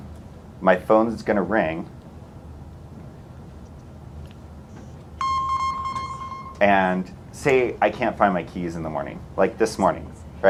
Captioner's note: phone rings